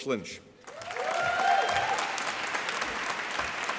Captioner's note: applause